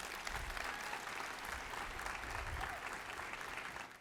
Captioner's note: applause